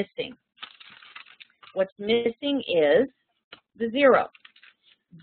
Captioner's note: pages turning